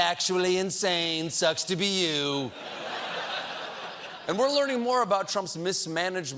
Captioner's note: laughter